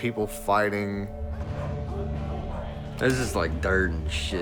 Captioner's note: dogs barking